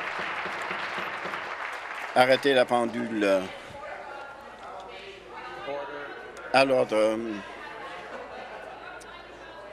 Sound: applause

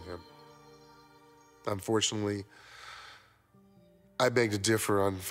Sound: inhales sharply

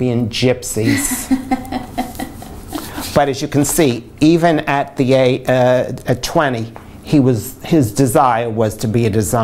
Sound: laughter

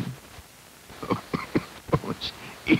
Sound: coughing

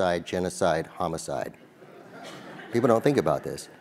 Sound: laugh

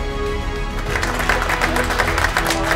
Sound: cheering

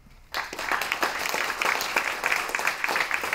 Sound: applause

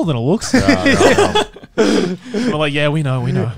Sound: everyone laughs

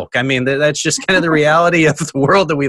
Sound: laughs

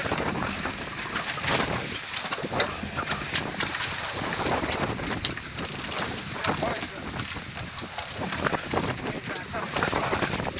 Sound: sound of wind, sails, winches

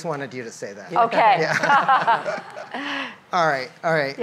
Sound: laughs

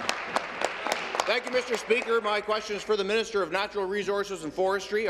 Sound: applause

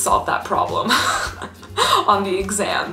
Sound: laughs

